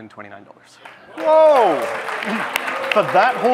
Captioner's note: audience clapping